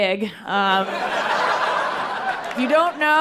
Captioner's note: people laughing